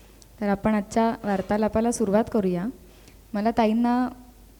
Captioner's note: conversation